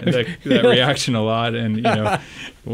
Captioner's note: laughs